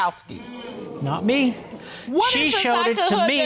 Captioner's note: audience sighing